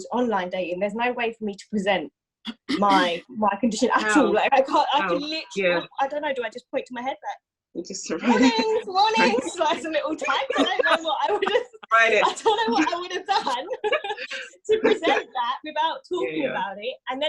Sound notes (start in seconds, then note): 2.5 clears throat; 8.2 laughs; 10.8 laugh; 11.5 laughing